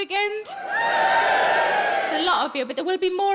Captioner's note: audience cheering